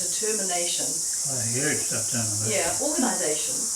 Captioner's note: mumbles